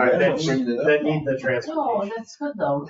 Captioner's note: people chattering